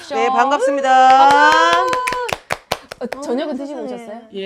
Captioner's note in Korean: 박수